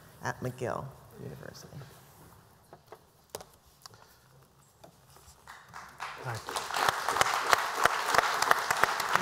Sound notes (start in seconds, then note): 5.4 applause